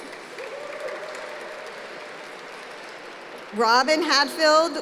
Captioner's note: applause